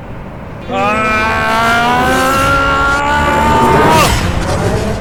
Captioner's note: loud fighting noises